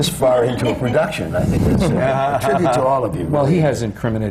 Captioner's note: laughter